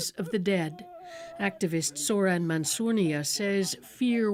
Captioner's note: crying